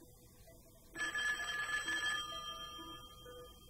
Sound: phone rings

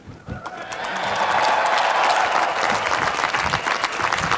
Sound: applause

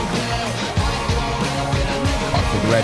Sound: crowd chanting

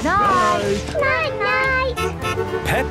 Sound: honking

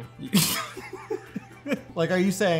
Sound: laughs

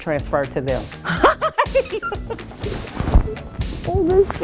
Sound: laughing

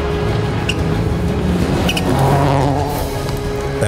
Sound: engine zooming

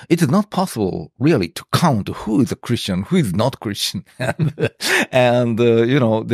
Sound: laughs

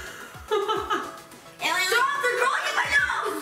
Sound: laughing

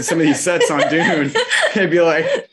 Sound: laughing

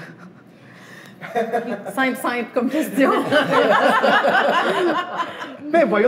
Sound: laughter

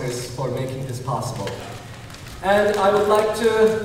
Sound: clapping

